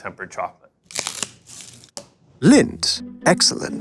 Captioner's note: wrapper tears